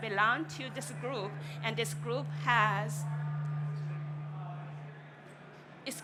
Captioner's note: microphone feedback